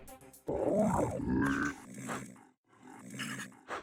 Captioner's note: beeboorat grumbling